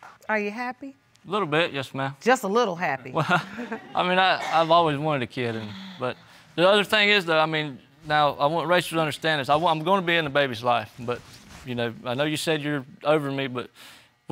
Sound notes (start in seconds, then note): 3.2 chuckles